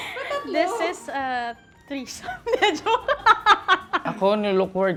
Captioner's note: laughs